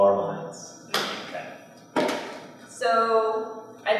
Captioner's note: clap